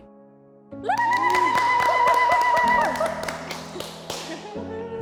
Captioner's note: group cheering and clapping